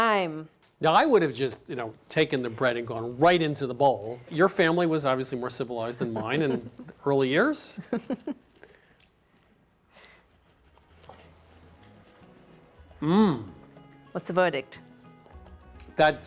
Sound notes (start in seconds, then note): 5.9 chuckling